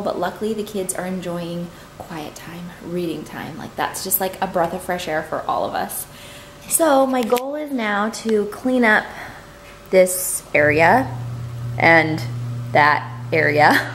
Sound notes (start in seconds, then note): none